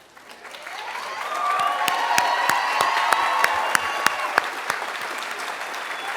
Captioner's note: applause